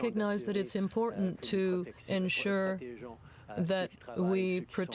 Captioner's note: speaking french